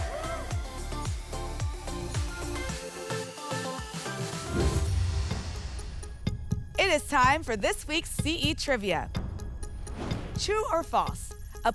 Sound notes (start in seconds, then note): 0.0 applause and cheering cont; 4.5 whoosh